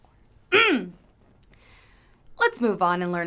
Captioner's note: clears throat